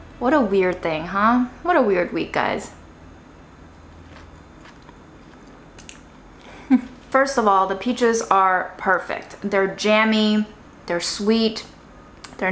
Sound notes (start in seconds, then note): 3.6 food squishing; 6.4 chuckles